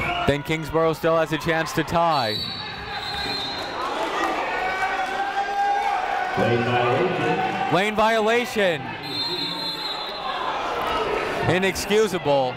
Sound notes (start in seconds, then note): 2.8 whistle tweeting; 3.4 people shouting in the crowd; 9.0 whistle tweeting